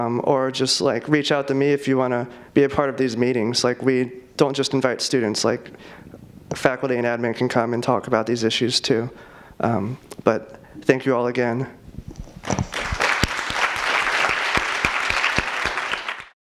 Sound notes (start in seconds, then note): 12.5 audience applauds